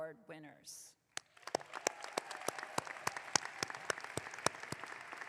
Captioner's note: audience clapping